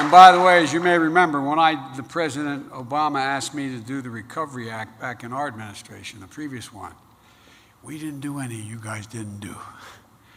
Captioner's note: applause